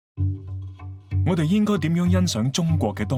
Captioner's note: Cantonese